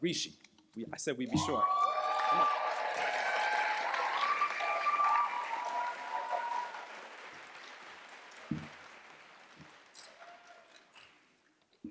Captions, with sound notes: Rishi. I said we'd be short. Come on. [CHEERS, APPLAUSE]